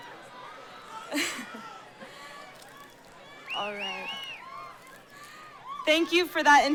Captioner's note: laughs